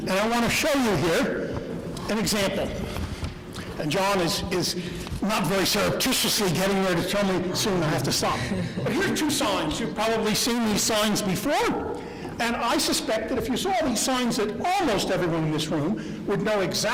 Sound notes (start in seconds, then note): 7.5 laughter